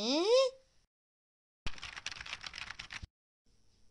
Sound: typing

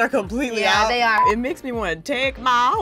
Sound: beep

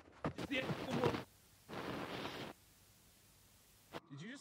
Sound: camera whirring

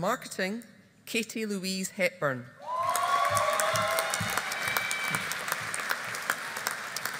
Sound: audience applauding

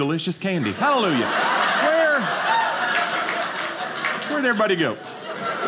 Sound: audience laughing

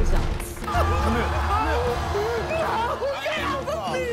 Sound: crowd booing

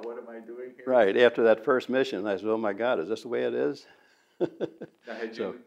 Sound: laughs

